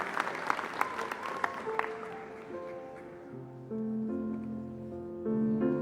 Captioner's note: applause